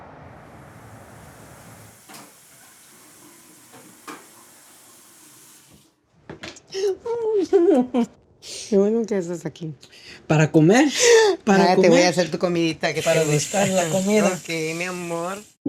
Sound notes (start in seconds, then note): 1.1 water running; 6.7 giggles; 8.8 in Spanish